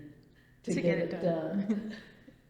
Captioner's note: laughs